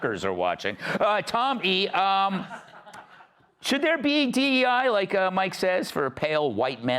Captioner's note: laughter